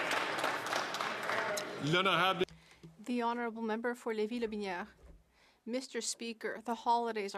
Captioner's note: some Applause